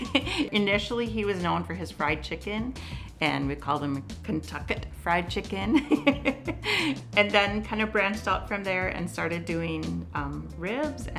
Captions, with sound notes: Initially he was known for his fried chicken and we called him Kentuckett Fried Chicken (laughs) and then kind of branched out from there and started doing ribs